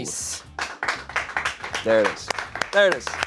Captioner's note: audience members clapping